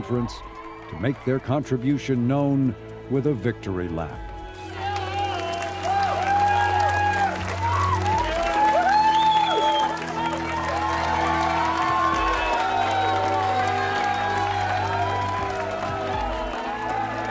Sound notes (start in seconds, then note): 9.9 crowd cheering